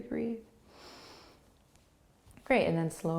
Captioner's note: inhaling